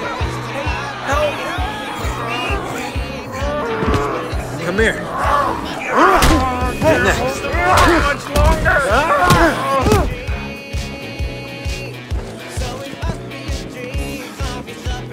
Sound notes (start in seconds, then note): 0.2 zombies growling; 7.3 grunts